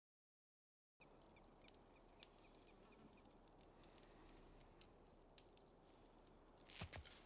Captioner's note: birds chirping